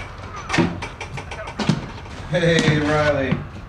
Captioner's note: door opening